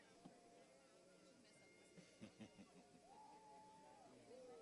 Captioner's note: laughing